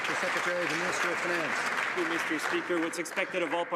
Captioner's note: some Applause